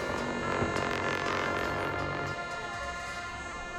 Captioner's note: cymbal crashes; horns blowing